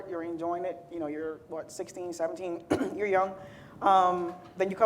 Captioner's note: clears throat